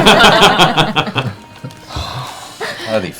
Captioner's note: laughter